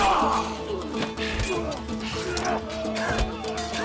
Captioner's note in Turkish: İnliyor